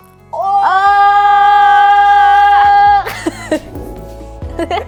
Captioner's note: yelling 'Ohhhh!'